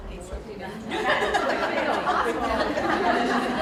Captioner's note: laughter